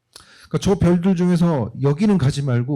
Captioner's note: speaking korean